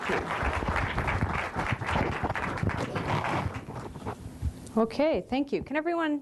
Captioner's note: applause